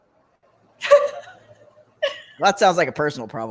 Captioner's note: laughs